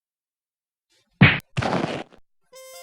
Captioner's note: smack; thud